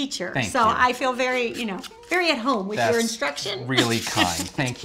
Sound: laughs

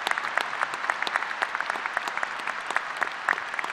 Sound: applause

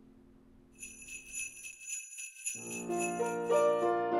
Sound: bells jingling; gentle piano music

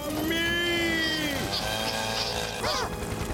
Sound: saw buzzing

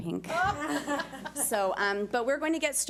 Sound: board laughs

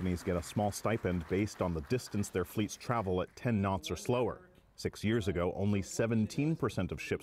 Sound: applause

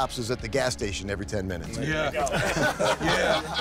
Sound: laughter

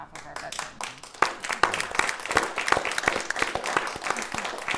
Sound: audience applauding

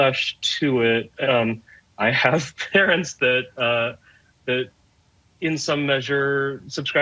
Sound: laughing

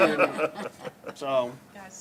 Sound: laughter

